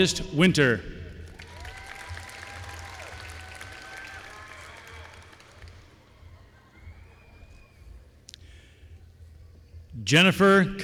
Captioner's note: applause